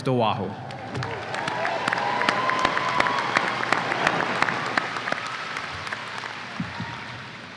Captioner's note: audience applause and cheers